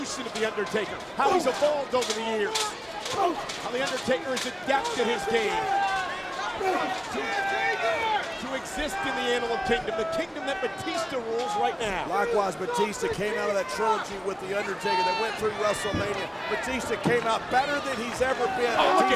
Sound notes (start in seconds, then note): 3.4 Batista groans; 3.4 fist thuds; 6.9 Batista groans